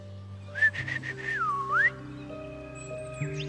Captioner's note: whistles